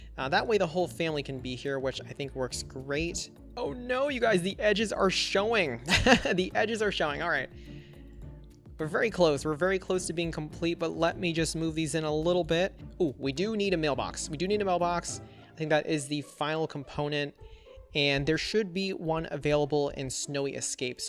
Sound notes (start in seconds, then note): 5.9 laughs